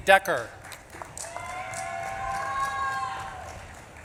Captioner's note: audience claps and cheers